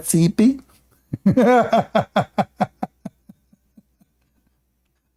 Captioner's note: Ketawa